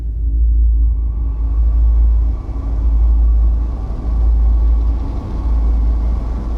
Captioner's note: buzzing intensifies; dissonant ringing